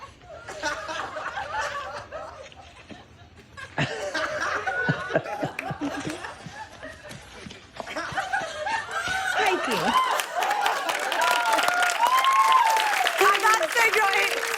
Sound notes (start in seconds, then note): 3.5 laughter; 8.9 cheers and applause